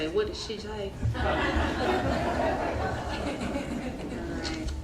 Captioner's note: crowd laughing